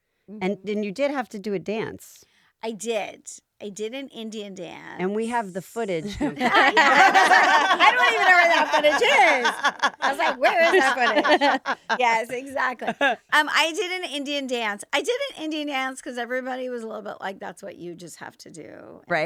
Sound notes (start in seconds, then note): 6.0 all laughing